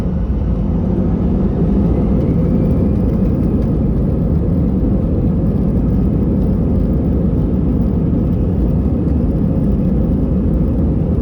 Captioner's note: sound of engine throttled for take-off roll